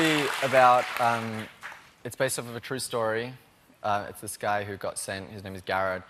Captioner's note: cheering